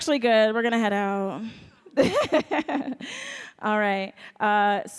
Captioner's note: laughs